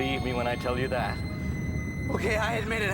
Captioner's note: distant screaming